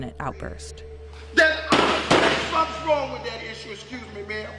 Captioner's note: bangs fist